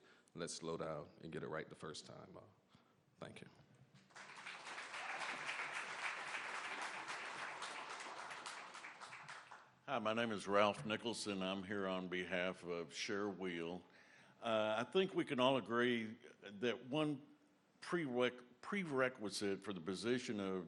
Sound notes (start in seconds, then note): 7.9 applause